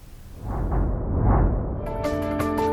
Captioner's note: heartbeat; dramatic music